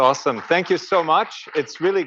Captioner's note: audience applauds